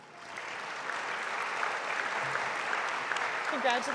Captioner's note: audience applauding